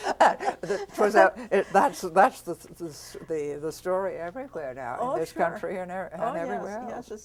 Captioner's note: laughter